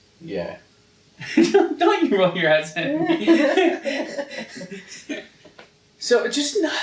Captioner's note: laughing